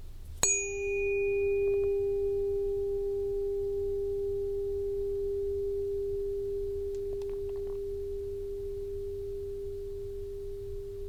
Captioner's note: bell Ring